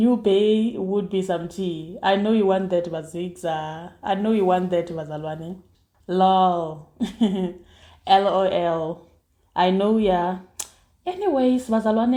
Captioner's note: laughs